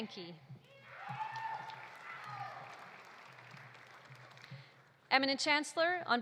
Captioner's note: audience cheering; audience applauding